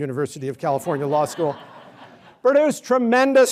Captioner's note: laughter